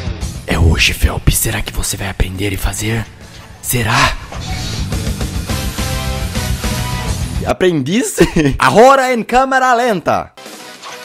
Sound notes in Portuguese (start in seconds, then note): 8.1 Risos